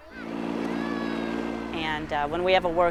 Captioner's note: tractor running